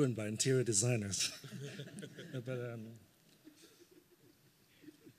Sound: laughter

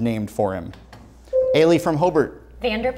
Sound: buzzer sounds

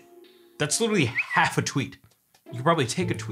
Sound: bird chirps

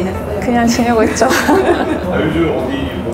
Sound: laughs

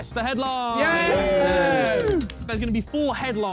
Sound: men cheering

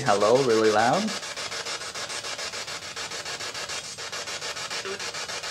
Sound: static

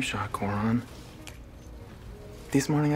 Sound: snaps fingers

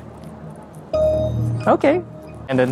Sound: gate pings

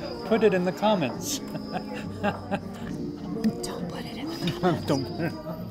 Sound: laughs

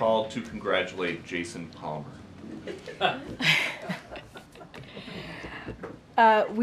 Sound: laughter

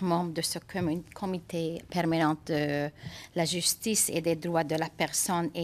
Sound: speaking French

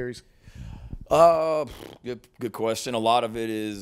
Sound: blows raspberry

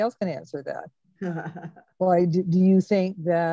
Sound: laughs

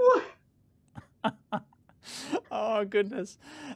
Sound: laughing

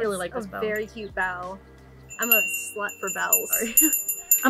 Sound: bell rings; laughs

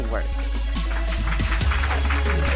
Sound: applause

